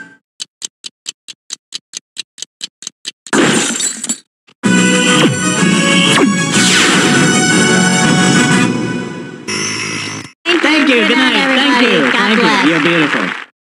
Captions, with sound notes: *clock ticks* *shatters* - Thank you and goodnight everybody. - Thank you and goodnight. Thank you, thank you. You're beautiful.